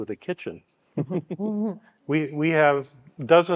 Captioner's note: speakers giggling